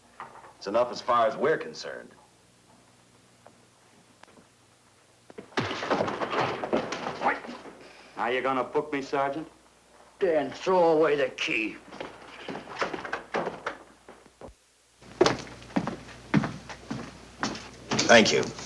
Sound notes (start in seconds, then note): 5.4 commotion; 15.1 Lauder's footsteps; 17.9 door opens